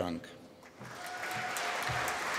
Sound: applause

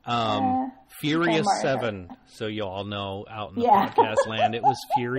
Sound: laughs

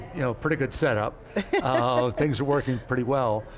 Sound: laughs

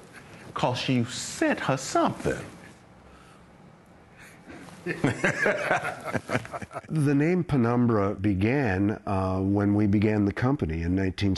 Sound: laughter

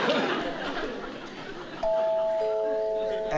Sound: doorbell

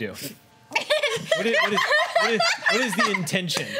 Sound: laughing

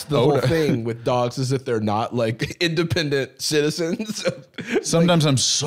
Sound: laughs

